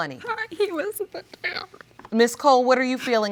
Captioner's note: voice breaking